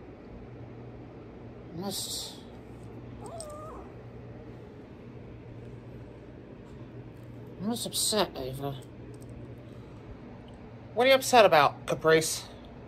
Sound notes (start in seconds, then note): 3.7 growls